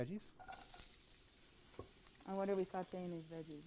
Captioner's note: sizzle